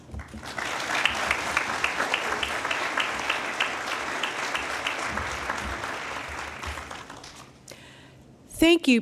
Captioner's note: applause